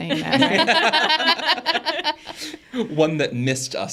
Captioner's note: participants laughing